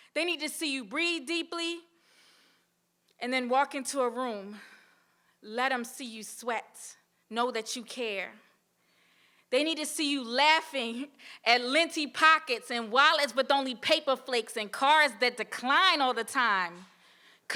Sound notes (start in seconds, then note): 2.6 inhales; 4.9 exhales